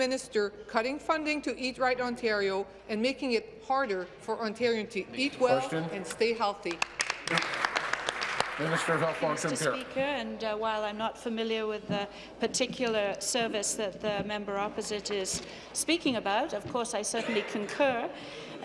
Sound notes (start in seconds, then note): 10.2 applause